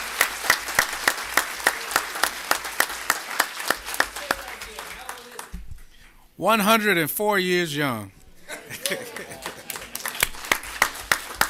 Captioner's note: applause